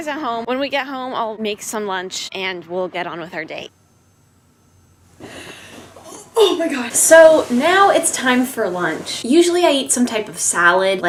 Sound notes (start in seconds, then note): 5.2 gasps; 6.0 strained